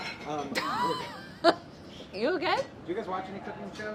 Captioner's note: dishes clatter; laughs